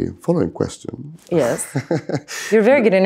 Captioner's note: both laughing